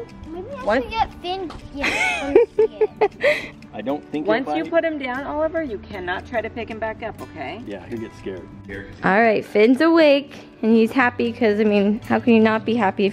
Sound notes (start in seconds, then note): 1.8 laughter